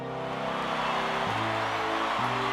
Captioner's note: cheering